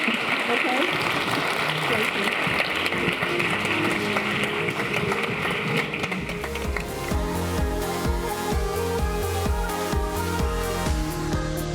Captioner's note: applause